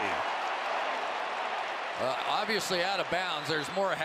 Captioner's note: cheering